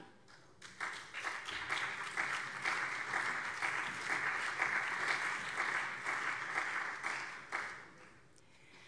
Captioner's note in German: Beifall SPD